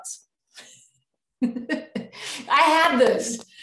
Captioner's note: chuckles